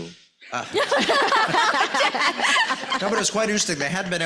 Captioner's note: laughs